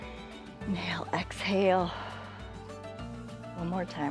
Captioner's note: exhales